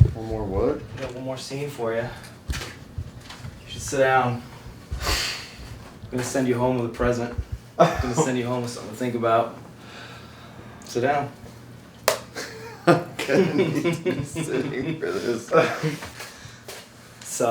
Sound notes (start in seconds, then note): 12.3 laughing